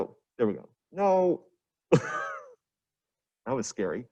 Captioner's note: coughs